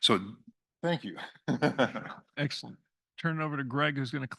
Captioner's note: laugh